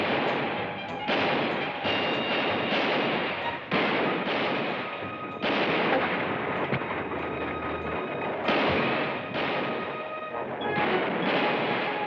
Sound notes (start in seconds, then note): 1.3 gunfire continues